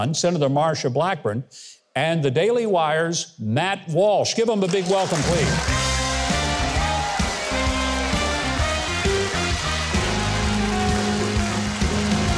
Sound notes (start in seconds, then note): 5.2 cheerful music; 6.6 audience cheers